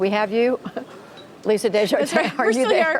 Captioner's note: laughter